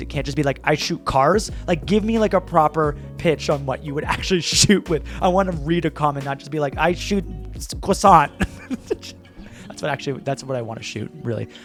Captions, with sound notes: It can't just be like, "I shoot cars." Like give me like a proper pitch on what you would actually shoot with. I wanna read a comment, not just be like, "I shoot croissant." (chuckles) That's what actually, that's what I wanna shoot really.